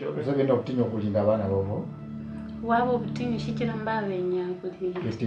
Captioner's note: speaking in foreign language